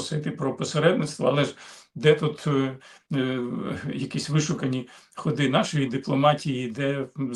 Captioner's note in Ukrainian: сопіння